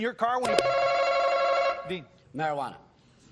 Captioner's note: button chimes